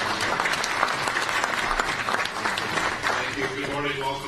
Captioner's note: applause